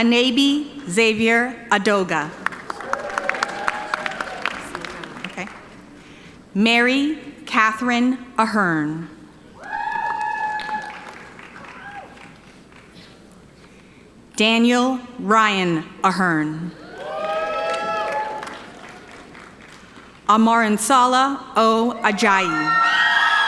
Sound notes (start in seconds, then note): 2.3 audience applauding; 9.5 audience cheering; 16.8 audience cheering